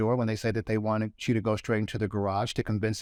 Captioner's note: none